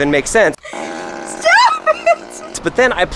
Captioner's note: laughs; farts